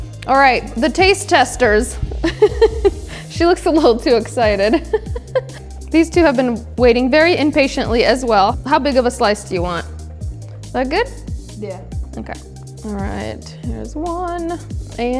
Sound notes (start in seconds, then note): 2.1 laughs